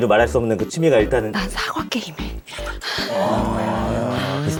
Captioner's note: still whispering